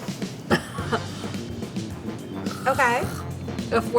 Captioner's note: laughs